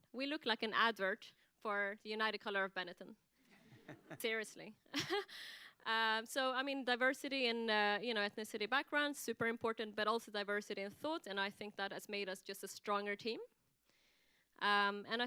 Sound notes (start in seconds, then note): 4.5 laughs